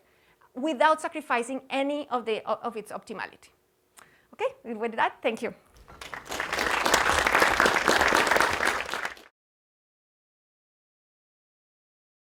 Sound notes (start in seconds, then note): 5.8 clapping